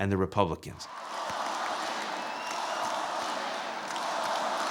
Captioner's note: crowd